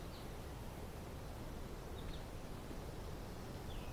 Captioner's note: birds chirping